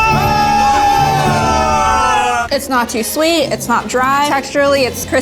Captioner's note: screams